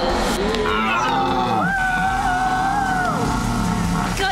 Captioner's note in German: Elchgebrüll